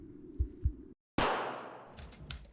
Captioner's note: bang